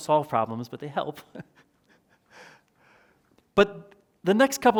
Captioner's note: chuckles